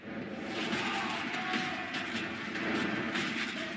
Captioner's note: screaming